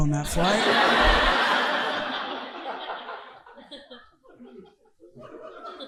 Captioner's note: audience laughing